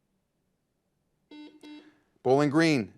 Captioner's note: buzzer buzzes